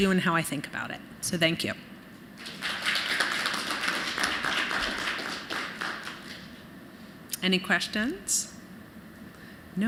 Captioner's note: applause